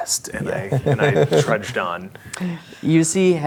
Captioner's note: laughing